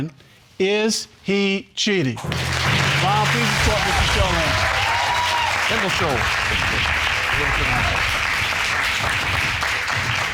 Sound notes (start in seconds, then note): 3.1 audience applauding; 5.3 audience cheering